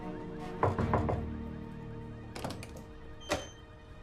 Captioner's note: knocking